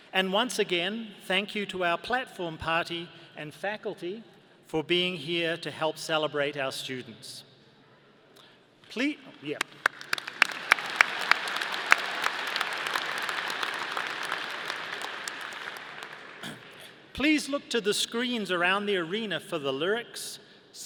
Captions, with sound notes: And, once again, thank you to our platform party and faculty for being here to help celebrate our students. Yeah. (audience applauding) Please look to the screens around the arena for the lyrics,